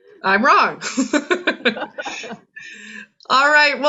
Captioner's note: laughs